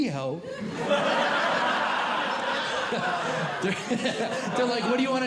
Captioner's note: audience Laughing